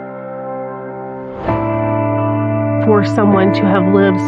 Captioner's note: air w whooshing